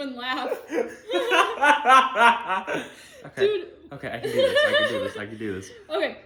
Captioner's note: laughter